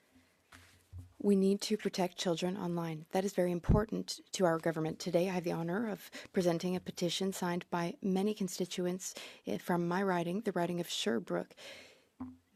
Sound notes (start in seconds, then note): 2.8 speaking French